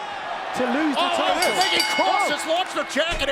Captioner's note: bell rings